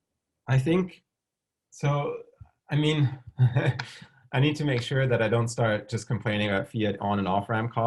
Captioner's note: chuckles